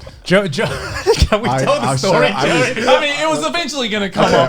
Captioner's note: laughs